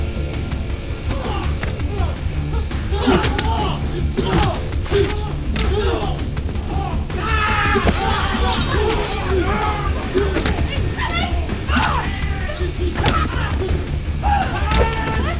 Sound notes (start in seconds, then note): 1.2 people grunting; 4.1 thudding; 6.6 man yelling; 13.0 thudding